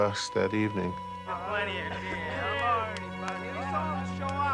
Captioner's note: indistinct chatter